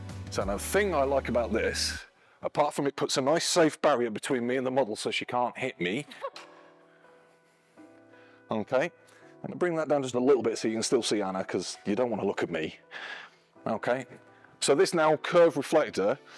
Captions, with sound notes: so the thing I like about this apart from it puts a nice safe barrier between me and the model so she can't hit me. (Laughs) Okay. And to bring that down just a little bit so you can still see Anna because you don't want to look at me. Okay so this now curve reflector,